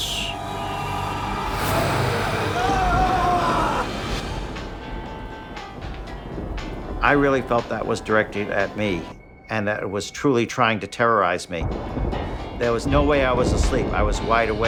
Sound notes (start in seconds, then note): 0.0 Keith screaming; 0.0 growling; 4.3 upbeat music